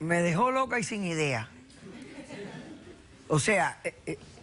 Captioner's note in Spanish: risas